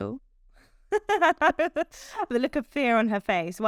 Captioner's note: both laughing